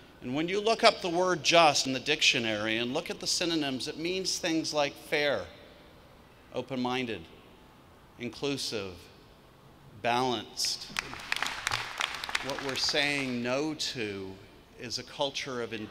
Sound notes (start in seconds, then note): 10.8 clapping